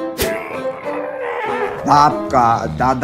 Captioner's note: angry grunts; struggling noises